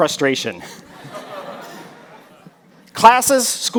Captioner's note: audience laughs